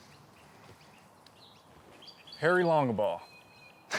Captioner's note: birds chirping